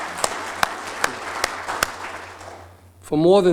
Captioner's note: applause